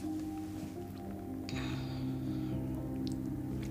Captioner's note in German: Schlucken